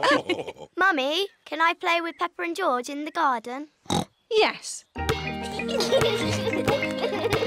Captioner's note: others laugh; oinks; youngsters giggle